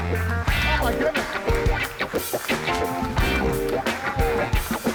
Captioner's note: audience applauds